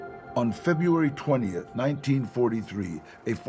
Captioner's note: in English